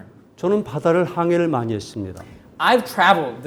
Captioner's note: speaking in Korean